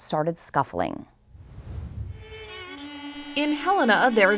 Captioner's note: air whooshes